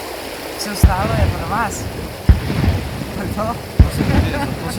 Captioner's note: cannon blasts